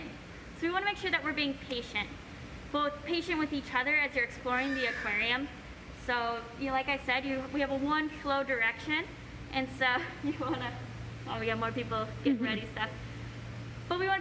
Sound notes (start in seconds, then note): 4.5 bird squawk